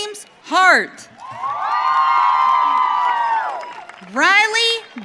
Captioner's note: audience cheering